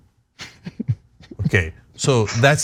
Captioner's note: laugh